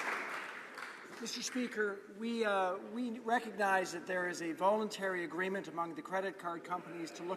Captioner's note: some Applause